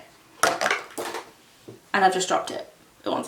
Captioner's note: veneers clattering